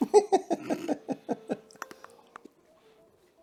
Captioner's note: laughing